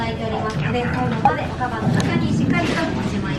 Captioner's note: whispers